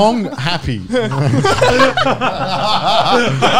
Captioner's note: laughing